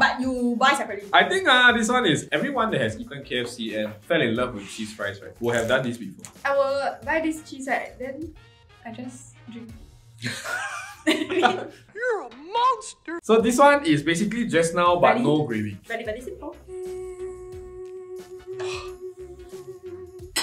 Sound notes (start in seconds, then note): 10.2 laughs; 17.8 heavenly sounds